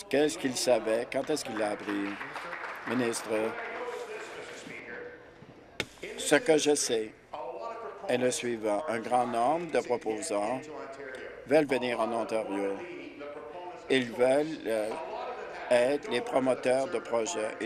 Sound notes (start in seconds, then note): 4.5 applause